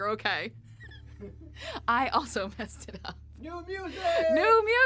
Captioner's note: both laughing